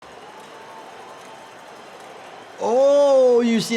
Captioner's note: crowd cheers